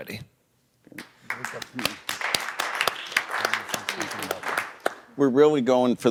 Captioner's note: audience applauding